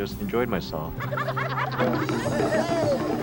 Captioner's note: everyone laughing; upbeat tribal music